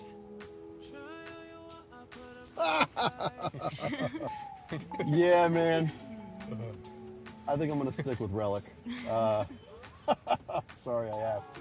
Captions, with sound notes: (upbeat music) (people laughing) - Yeah, man, I think I'm gonna stick with Rellik.